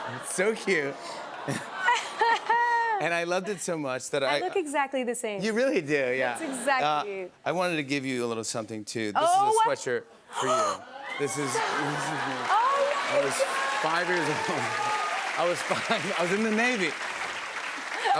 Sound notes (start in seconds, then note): 11.5 laughter